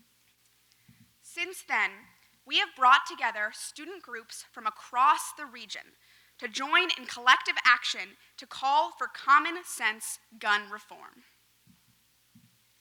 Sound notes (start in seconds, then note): none